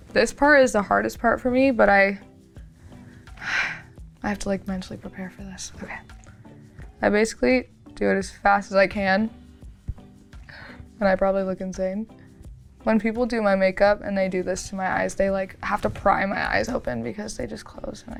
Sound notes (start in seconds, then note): 2.9 sighs